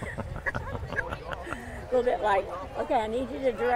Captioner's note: people laugh